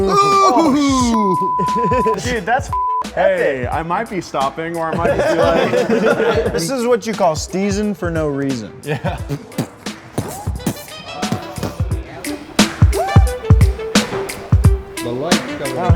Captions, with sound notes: (all cheer) Hey, I might be stopping or am I... (all laugh) - This is what you call steezing for no reason. (upbeat music)